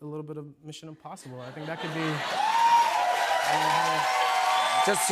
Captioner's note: cheers and applause